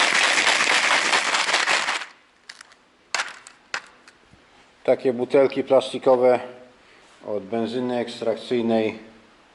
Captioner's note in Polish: Aplauz